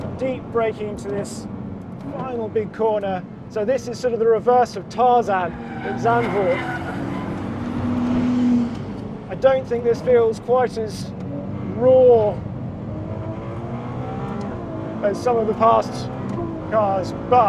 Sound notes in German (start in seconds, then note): 6.0 Reifenquietschen übertönt